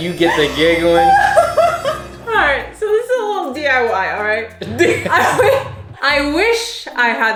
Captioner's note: laughs